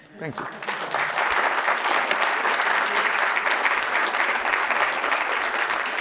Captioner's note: audience applauding